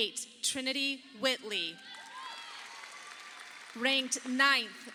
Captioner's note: audience applauding